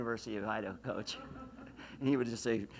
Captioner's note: laughs